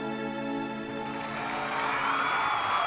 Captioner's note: applause